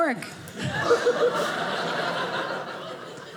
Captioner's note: audience laughing